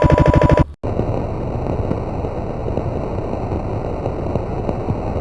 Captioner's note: computer hissing